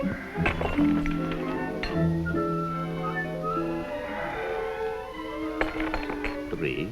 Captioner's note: dramatic music; Fedor exhaling; glasses shattering